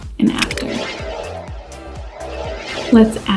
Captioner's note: upbeat music; whirring